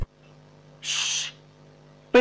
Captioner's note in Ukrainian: Баллора шипить